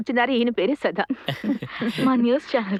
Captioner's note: he chuckles